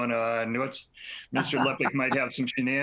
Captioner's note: laughter